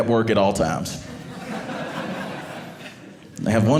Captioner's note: audience laughing